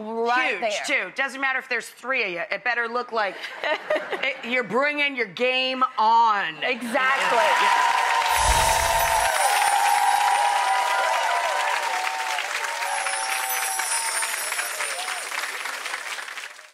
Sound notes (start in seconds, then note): 2.3 audience laughing lightly; 8.2 audience applause